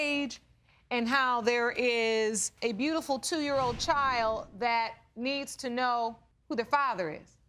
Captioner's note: none